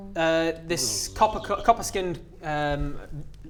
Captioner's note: buzzzzzzzzz